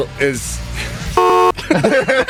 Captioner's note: horn honks; all laugh